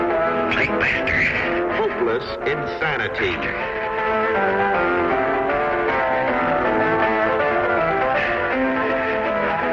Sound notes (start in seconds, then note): 0.8 insane rambling; 4.4 piano music